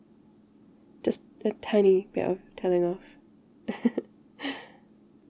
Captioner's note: laughs